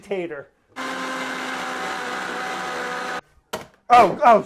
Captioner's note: blender whirring